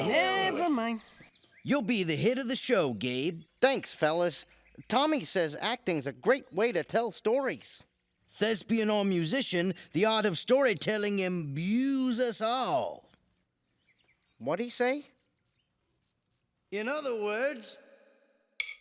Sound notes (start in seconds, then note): 15.3 crickets chirp; 18.6 drumsticks click